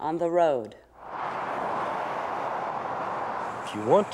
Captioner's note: traffic noise